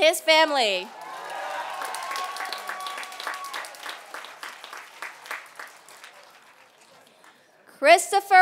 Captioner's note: applause